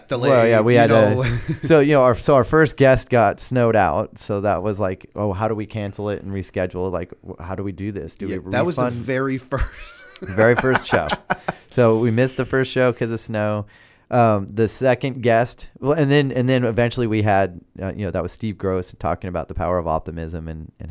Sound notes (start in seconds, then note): 9.5 laughter